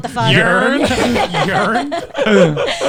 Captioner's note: all laughing